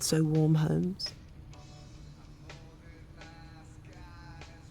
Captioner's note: background car radio